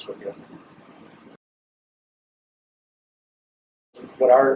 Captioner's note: silence